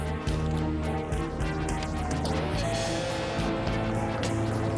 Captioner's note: car engine rumbling